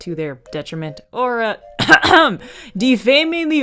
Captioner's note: ahem